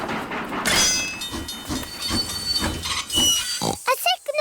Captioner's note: tinging; oinks